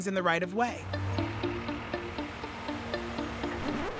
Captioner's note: engines rumbling